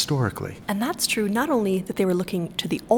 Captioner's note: voiceover